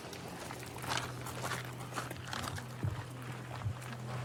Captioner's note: footsteps crunching